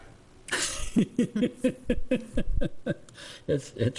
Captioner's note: laughing